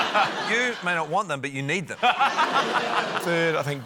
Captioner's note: laughter